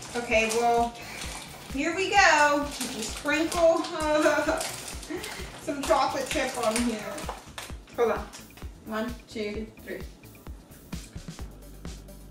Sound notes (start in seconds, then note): 3.9 laughing